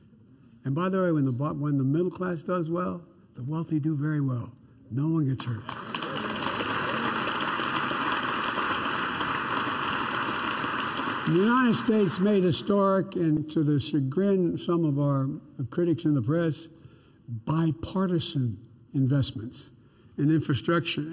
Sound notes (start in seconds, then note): 4.9 applause